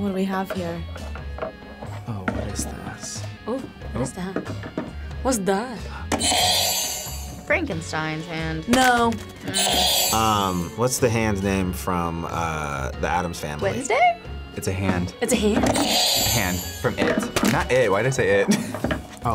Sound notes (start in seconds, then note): 6.3 buzzer rings; 15.9 buzzer rings; 18.8 laughs